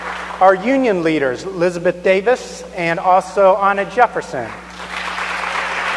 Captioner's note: applause